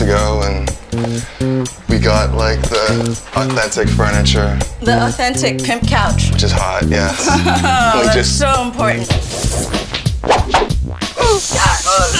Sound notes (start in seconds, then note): 6.9 laughing; 9.7 funky music